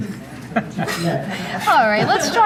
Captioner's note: laughing